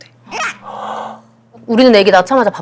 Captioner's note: gasp